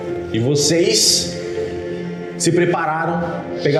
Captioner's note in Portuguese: none